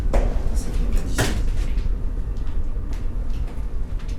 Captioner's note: speaks French